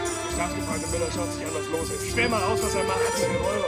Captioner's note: speaking german